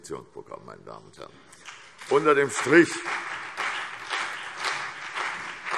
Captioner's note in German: Beifall CDU und BÜNDNIS 90/DIE GRÜNEN